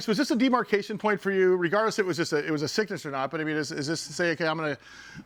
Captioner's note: none